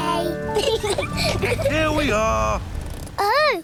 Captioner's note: both laugh